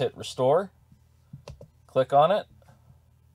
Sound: mouse clicking

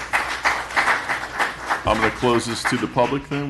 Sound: applause

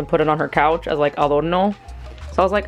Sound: Spanish accent

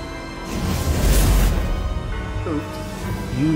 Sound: erupting flames

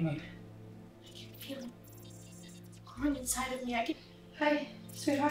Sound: robotic beeps

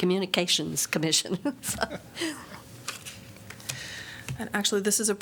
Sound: laughter

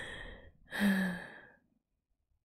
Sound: sighs

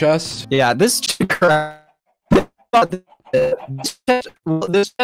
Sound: choppy speech

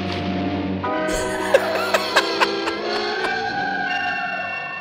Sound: laughs

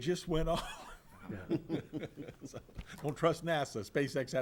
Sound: all laughs

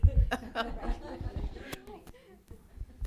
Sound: laughter

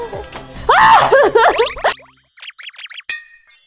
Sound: screams

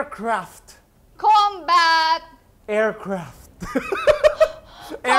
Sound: laughs

